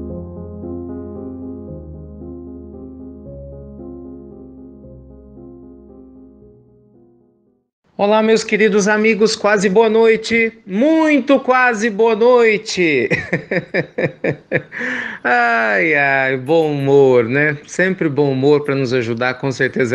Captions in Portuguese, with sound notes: Acesse nosso grupo no Facebook - Pílulas do Evangelho - Transcrição ou Pílulas do Evangelho - Tradução. Colabore conosco! Olá, meus queridos amigos, muito quase boa noite! Muito quase boa noite! (risos) Ah, o bom humor! Sempre o bom humor para nos ajudar, com certeza,